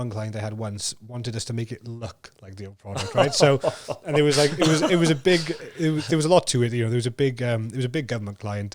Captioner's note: laughs